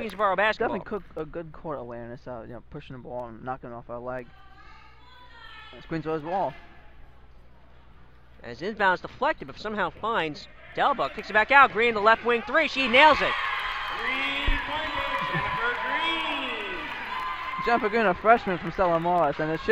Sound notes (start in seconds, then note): 13.4 crowd cheers